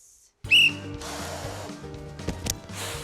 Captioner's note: blows whistle; blows air